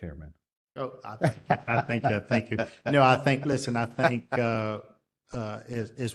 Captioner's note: laugh